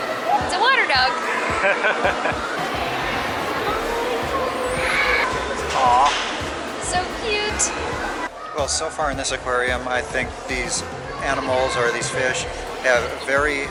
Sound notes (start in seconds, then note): 1.2 laughter